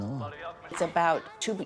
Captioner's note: through translator